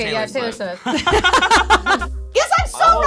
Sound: laughing simultaneously

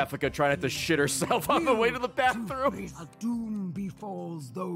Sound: laughs

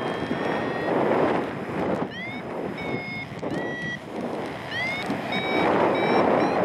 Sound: low pitch alarm sounds; wind whooshing; alarm sounds; alarm accelerates; wind whooshing

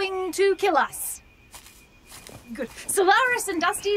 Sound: FOOTSTEPS as Mo and Bob walk off

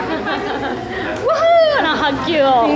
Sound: hands clapping

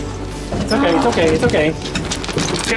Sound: grunt

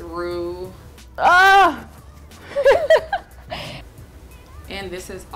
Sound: laughter

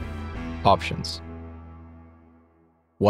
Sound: voiceover

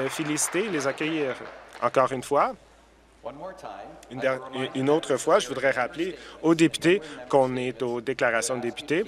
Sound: applause

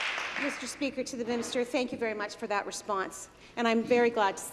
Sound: applause

